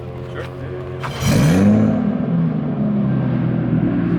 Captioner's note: engine revs